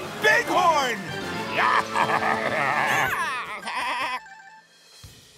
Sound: baaing

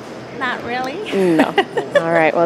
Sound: laughing

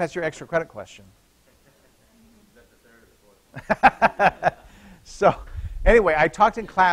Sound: laughter

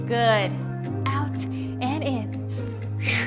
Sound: blows air

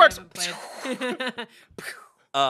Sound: laughs

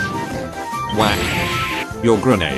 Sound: whack

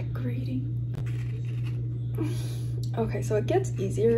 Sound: grating sounds

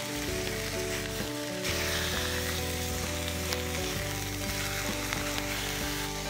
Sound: sizzling

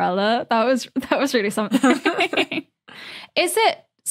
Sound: chuckle

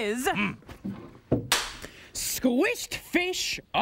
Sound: cracks pointer

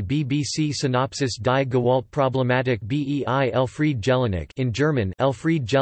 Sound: in German

